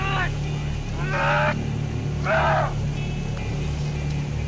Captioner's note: exasperated yelling